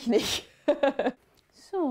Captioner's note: she laughs